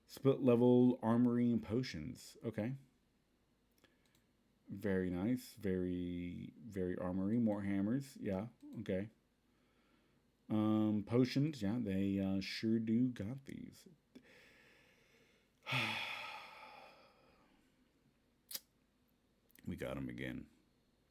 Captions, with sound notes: "Split level Armory and Potions" Okay. Very nice...Verrryyyyyy Very armory. More hammers? Yeah, okay! Uhm, potions? Yeah, they uhh, sure do got these... *HEAVY SIGH* /We gottem again.../